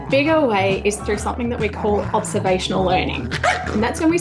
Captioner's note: dog growls, barks